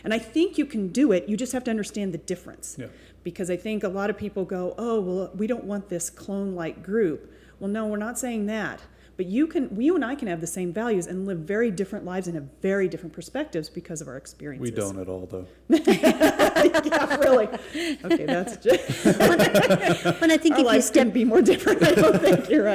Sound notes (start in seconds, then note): 15.7 laughter